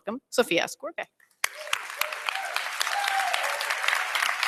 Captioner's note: applause